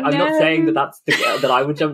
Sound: laughing

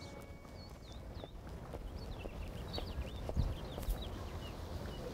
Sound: birds chirping

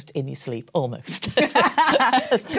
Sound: laughter

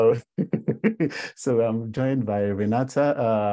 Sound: laugh

